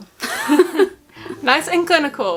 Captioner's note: all chuckle